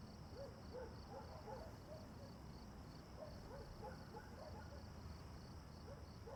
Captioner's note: crickets chirp; dog barks in distance